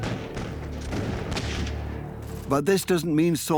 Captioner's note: gunfire and explosions